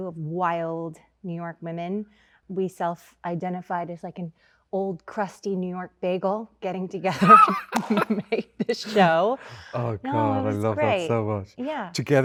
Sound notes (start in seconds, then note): 7.1 Andrew laughs